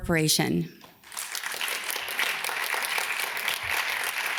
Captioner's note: audience claps